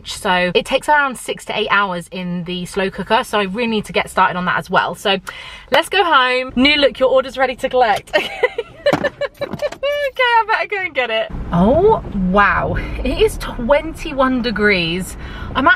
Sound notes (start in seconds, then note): 8.1 laughs